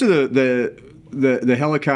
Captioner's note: laughing